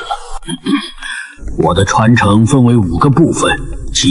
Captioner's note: cough